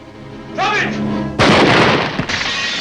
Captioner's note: gunshot